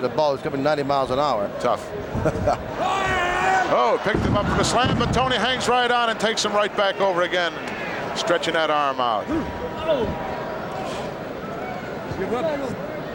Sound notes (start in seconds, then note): 2.4 Pat chuckles; 3.3 shouting